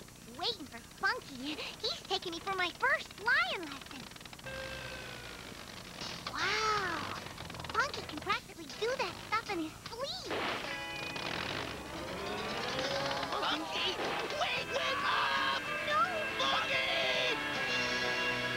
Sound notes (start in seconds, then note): 4.3 biplane sputters; 10.5 biplane backfires and sputters